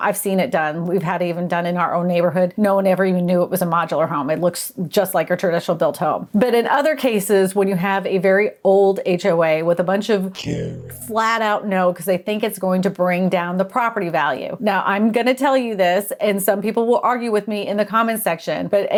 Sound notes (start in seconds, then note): 10.5 distorted Voiceover